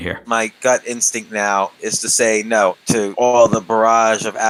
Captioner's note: none